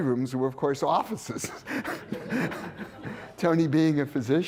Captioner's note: laughter